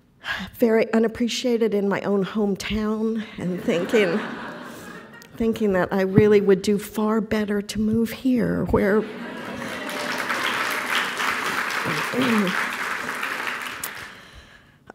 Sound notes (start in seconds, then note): 3.5 laughter; 9.1 applause